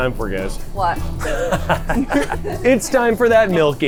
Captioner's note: laughing